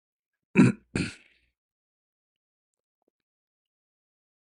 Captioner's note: clears throat